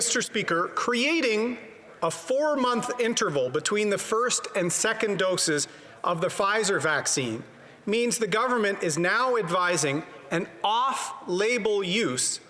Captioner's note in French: voix de l'interprète